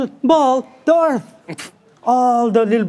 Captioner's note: person guffaws